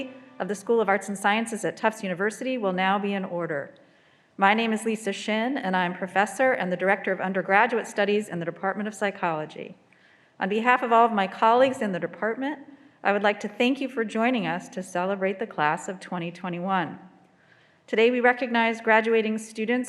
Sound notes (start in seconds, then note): none